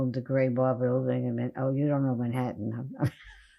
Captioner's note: laughing